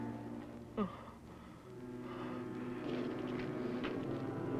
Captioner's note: Slug groans